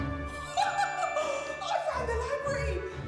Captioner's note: laughing